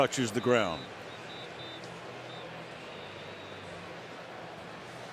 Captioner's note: whistle